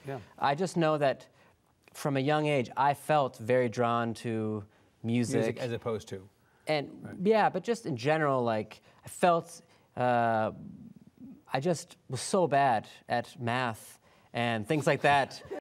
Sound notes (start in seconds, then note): 14.7 laughter